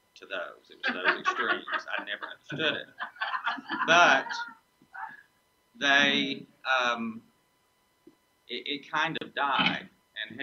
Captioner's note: audience laughs